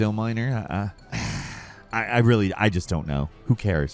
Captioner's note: sighs